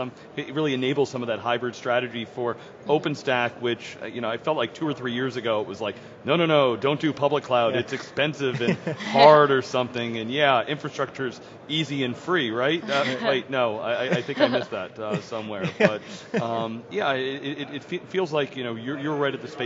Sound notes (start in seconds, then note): 8.4 laughter; 14.0 laughter